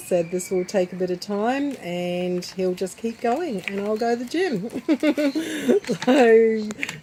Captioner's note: laughs